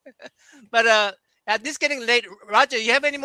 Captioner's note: laughter